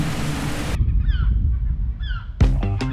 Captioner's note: distant seagulls